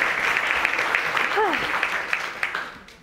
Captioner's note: sighs